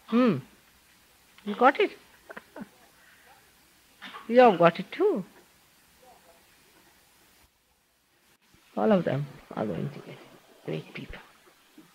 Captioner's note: she laughs